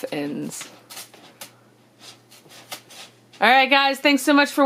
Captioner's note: scratching